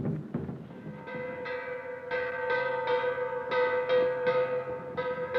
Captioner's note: bell clanging